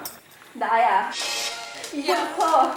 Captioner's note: teary voice